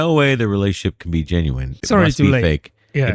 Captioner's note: uh